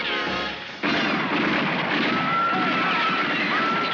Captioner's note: gunfire